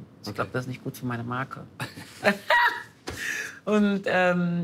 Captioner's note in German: Lachen